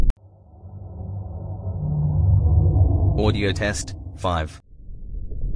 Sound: eerie ethereal transitional SFX; underwater ocean sounds with a low continuous rumble and low continuous bubbles

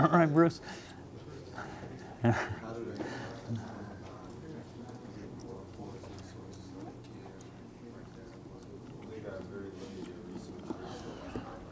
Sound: audience talking

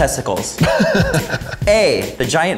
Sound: laughing

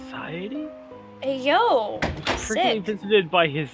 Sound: door opens

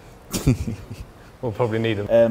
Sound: laughter

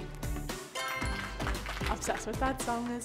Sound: applauding

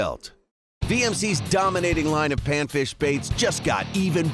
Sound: voiceover

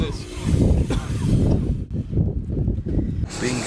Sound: coughing

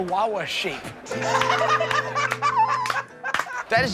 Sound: laughter

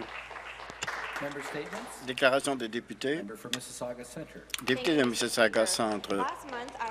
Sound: some Applause

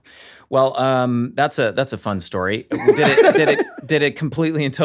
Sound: rob and charlie laugh

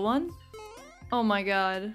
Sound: boing

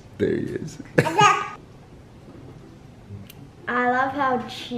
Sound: laughs

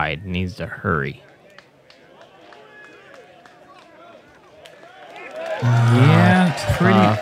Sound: applause

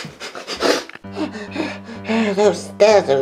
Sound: breathing heavily

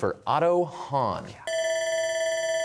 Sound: bell ringing

